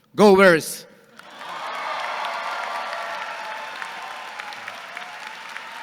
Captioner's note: audience cheering and clapping